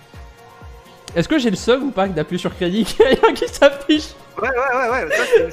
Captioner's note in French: rires